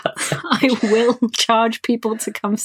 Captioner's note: laughing